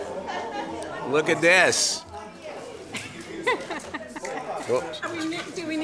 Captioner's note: laughter